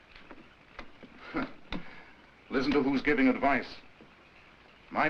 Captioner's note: scoffs